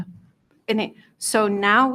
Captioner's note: speaking faintly